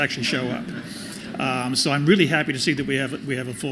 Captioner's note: laughter